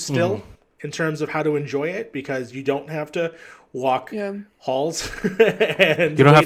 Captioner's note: laughs